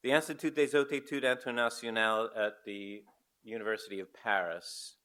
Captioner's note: foreign language